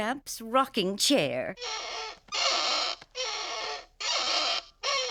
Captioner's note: bird creaking